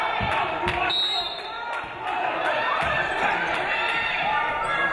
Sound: referee blows whistle

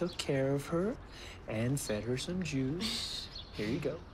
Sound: chuckles

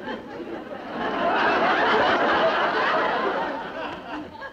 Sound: crowd laughing

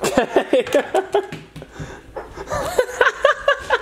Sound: laughter

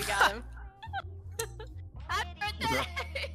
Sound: laughing

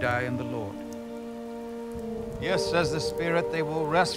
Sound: distant thunder rumbles

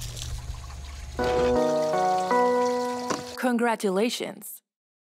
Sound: chime

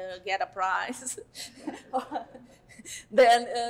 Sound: laughter

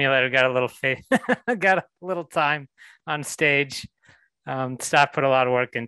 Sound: laughs

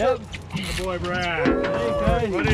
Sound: whooping

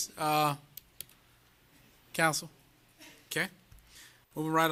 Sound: laughter

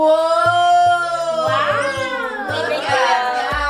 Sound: group cheering

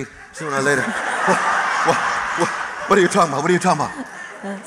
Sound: laughter

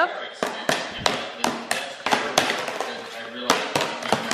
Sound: banging

